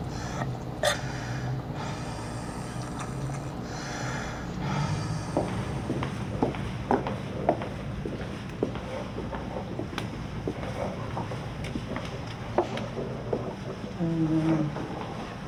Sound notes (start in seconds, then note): 0.0 inhales, Coughs; 0.8 wheezing, Gasping